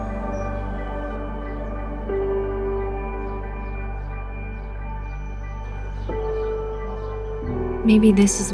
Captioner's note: birds chirping